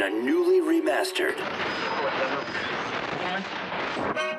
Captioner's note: radio static; upbeat music